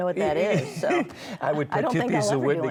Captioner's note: laughs